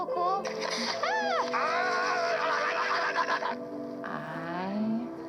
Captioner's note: walter growling